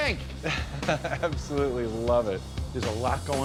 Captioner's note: chuckles